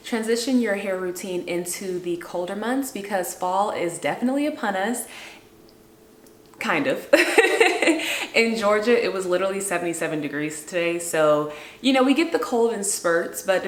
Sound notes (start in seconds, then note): 7.1 laughs